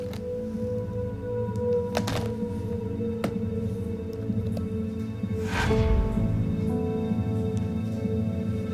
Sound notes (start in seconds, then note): 5.3 whoosh